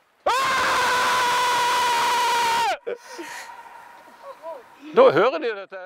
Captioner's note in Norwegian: Høyt brøl. Ekkoet runger gjennom dalen